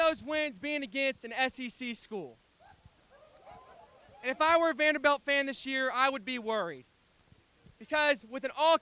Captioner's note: cheering